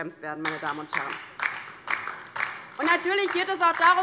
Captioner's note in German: Beifall